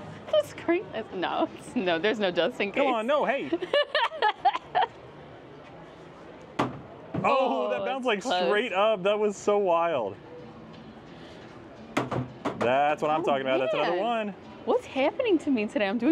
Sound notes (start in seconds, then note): 3.5 laughs